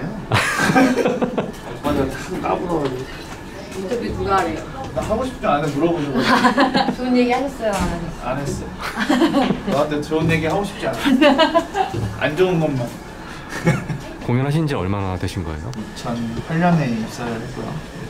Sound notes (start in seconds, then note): 0.0 jokingly; 6.0 laughs; 9.6 jokingly